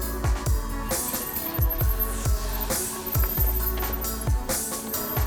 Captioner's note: bike zooming; upbeat music